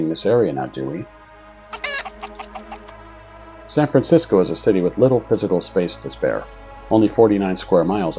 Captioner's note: chicken sounds